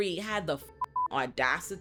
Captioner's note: beep